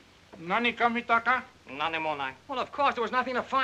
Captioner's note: speaking in Japanese